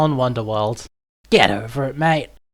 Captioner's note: aussie accent intensifies